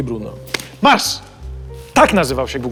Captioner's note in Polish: klaśnięcie w dłonie